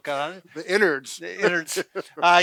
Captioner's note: laughs